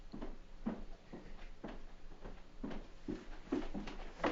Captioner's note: footsteps on stairs